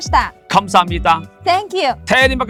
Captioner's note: Korean